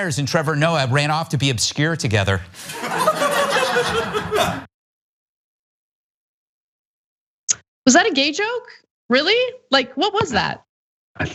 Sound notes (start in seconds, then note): 2.6 laugh